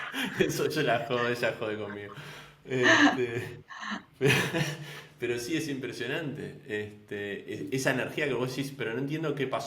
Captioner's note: laughs